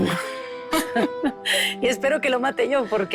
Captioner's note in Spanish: Risas